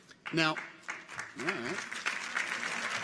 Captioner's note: people applaud